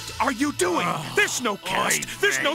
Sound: sigh

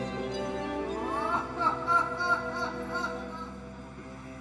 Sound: laughs

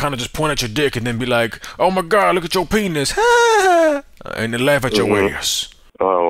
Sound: laughs

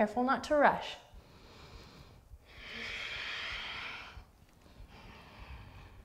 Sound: deep breathing

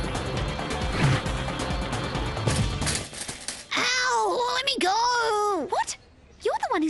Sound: bike crashing

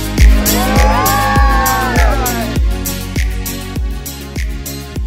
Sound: upbeat music continues; crowd Whooping; music fades away

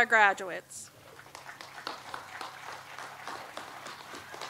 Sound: audience applauds

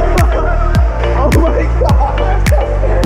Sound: laughing

